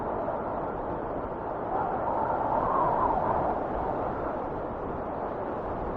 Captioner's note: wind whistling continues